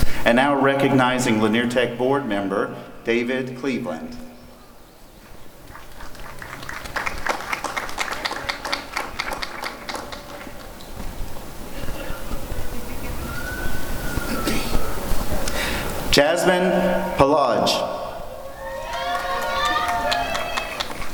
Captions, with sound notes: And now recognizing Lanier Tech board member David Cleveland. [applause] Jazmin Palaj [applause and cheering]